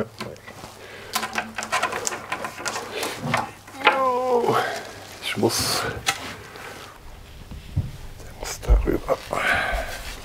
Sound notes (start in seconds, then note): 3.7 he groans; 8.4 quietly